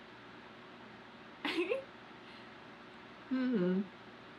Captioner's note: laughs